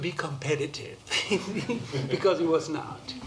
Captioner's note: laughter